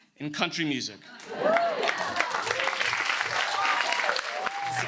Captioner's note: audience cheers